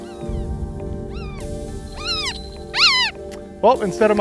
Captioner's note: hawk vocalizing